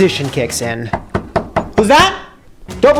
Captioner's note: door knock